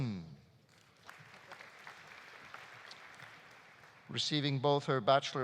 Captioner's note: audience applauding